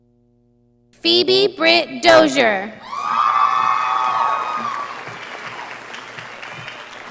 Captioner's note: audience applauding